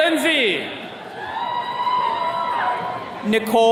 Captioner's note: attendees cheering